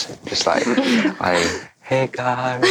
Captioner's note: all laugh